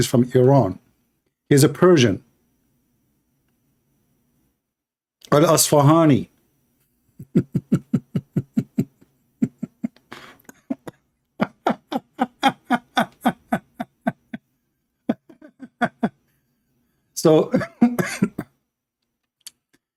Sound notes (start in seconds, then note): 7.2 Ketawa